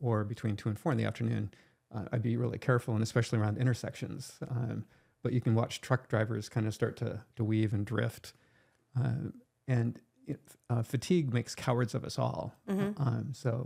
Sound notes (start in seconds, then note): none